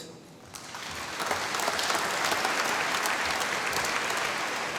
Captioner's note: applause